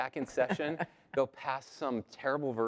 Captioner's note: laugh